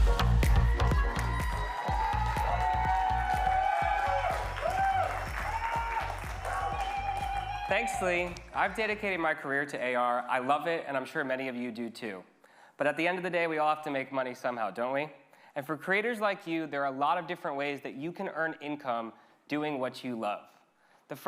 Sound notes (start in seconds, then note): 0.1 upbeat music; 1.1 audience cheering